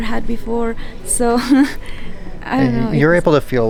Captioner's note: laughs